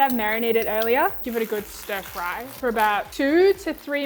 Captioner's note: oil sizzling